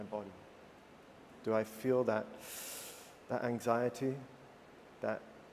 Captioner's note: breath in through teeth